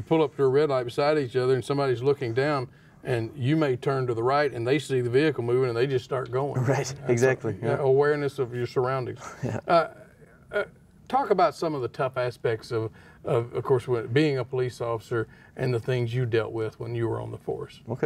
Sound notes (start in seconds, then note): 9.2 chuckles